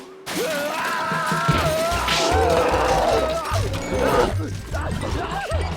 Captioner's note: screaming, roaring